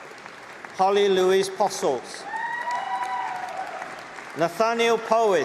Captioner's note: applause